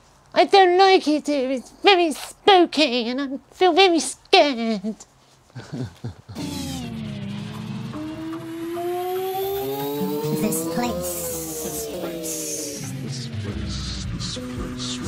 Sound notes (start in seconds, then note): 5.5 laughing